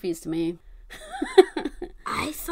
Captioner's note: laughs